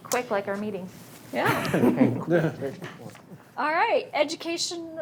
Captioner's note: board members laughs